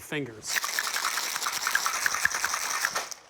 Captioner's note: ice rattling